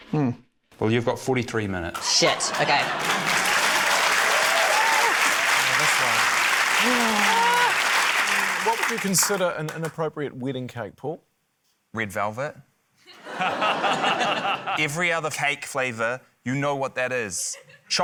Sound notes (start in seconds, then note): 1.9 cheering, applause; 13.1 laughter